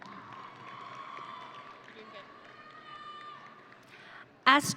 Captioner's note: audience cheering